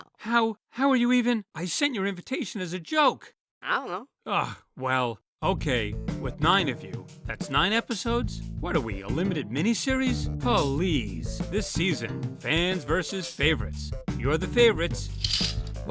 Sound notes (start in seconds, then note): none